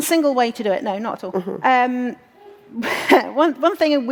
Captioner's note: laughs